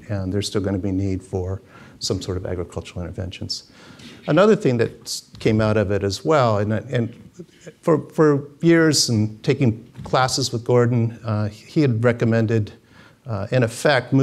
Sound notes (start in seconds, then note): none